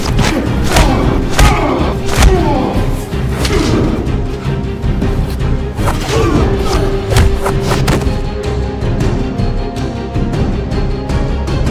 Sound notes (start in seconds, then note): 0.0 fist thudding; 0.2 Don groaning; 3.1 Don groans; 3.1 fist thuds; 5.0 air whooshes; 6.1 Chris groans; 7.1 Chris thuds